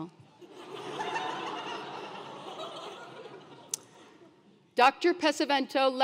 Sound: laugh

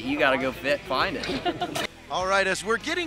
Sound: laughter

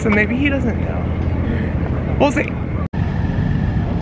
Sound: sigh

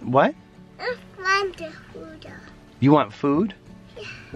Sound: babbles

